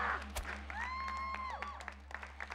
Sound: cheering

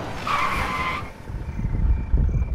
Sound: car screeches

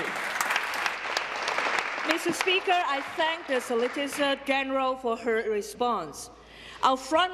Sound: applause

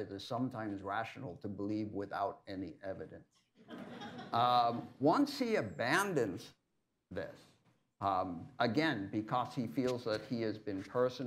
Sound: laughter

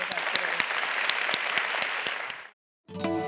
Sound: applause

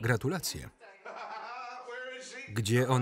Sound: laughing

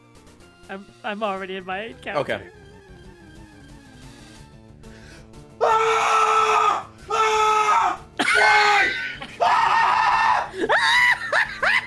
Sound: screams; laughs

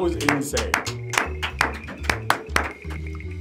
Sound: group clapping

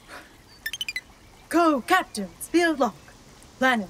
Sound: Captain Kirk voice, tired

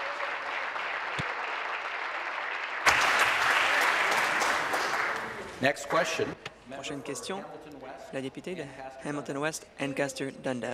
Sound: applause

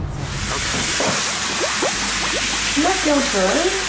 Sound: running Water

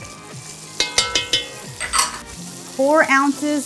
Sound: pan clangs

